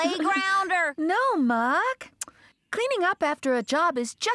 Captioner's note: chuckling